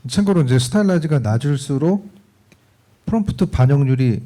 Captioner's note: speaking korean